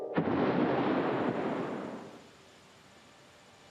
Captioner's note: loud crash